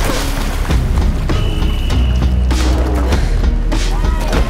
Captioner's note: splashing; whistle blows; yelling